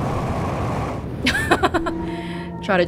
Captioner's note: laughs